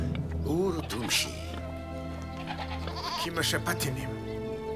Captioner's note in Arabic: الصوت المنطوق البدوي